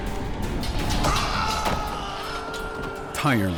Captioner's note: screams